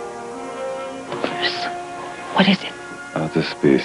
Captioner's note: whispering